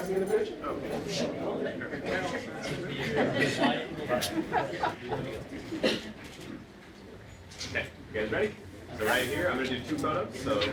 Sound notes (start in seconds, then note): 3.7 cameras clicking